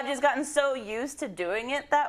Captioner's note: laugh